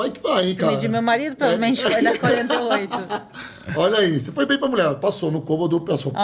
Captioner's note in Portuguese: risadas